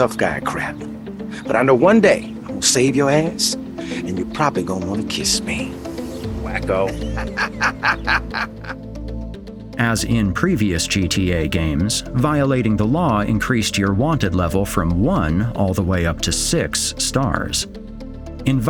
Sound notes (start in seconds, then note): 6.5 Lance Vance laughs